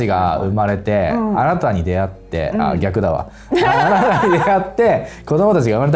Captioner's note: laughs